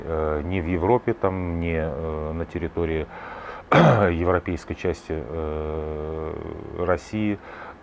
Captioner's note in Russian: откашливается